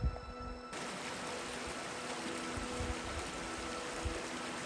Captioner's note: sound of stream flowing